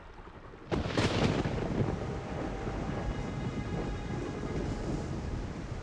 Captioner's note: lightning cracks; thunder rumbles